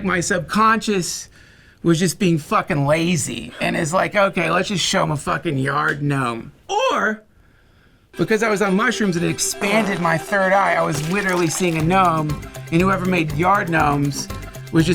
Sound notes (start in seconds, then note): 9.4 fart; 10.8 squishing